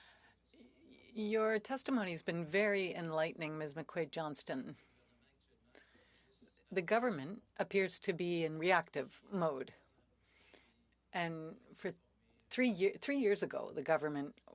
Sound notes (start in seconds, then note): 7.5 speaking French